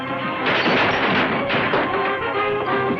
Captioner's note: glass breaking; punches landing